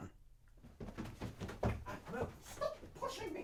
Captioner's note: shuffling and footsteps